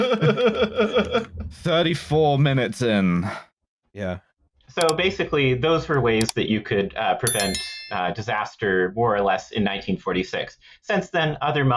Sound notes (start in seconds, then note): 0.0 laughs; 7.2 click, click, ringing bell